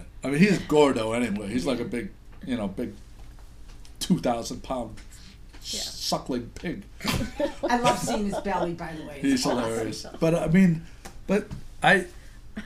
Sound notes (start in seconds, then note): 7.8 voiceover